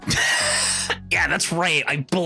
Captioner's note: laughing